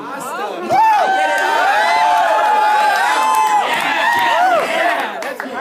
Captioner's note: cheering